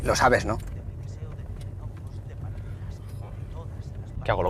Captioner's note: radio in background